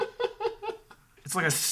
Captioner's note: laughs